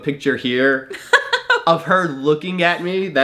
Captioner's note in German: lacht